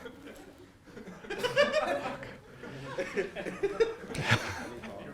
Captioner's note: students laughing